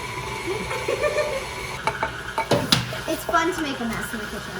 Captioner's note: giggling